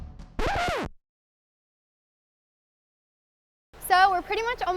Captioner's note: record scratching